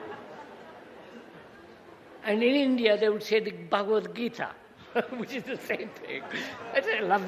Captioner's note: laughter